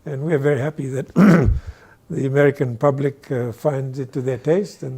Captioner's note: clears throat